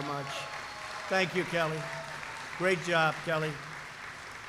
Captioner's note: applause